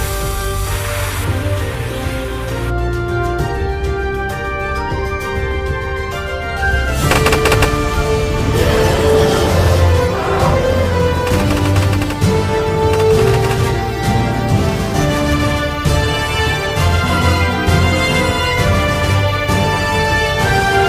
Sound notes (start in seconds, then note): 8.4 growls; 13.0 shooting